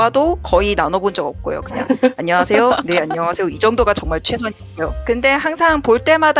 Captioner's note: laugh